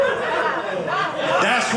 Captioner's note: audience laughing